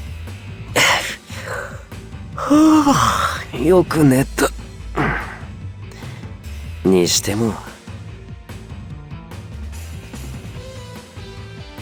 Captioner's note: yawn